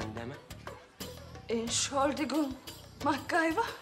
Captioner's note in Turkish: Almanca konuşma